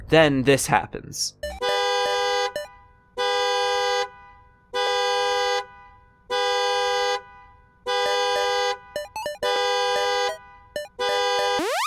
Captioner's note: car alarm